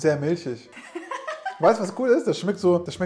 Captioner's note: laughing